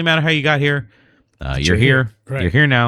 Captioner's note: uh